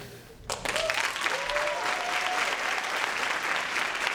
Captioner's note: applause